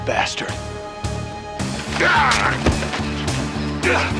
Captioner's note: yellin